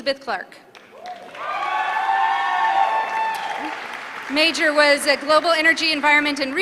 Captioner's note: applause